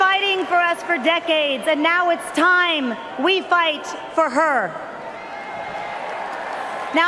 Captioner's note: cheers and Applause